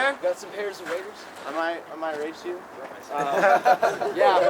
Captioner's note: audience laughs